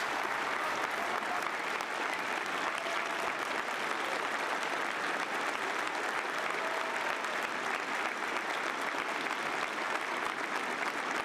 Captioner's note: applause